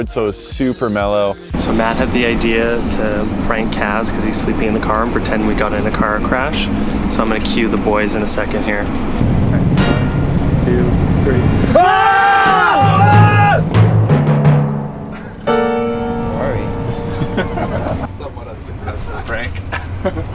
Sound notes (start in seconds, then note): 11.7 everyone yelling; 17.0 group laughing